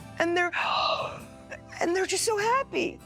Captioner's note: gasps